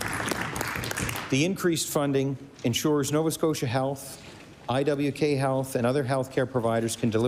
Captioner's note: applause